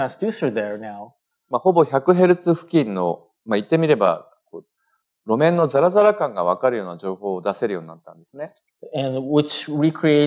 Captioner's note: speaking japanese